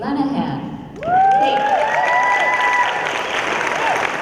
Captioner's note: cheering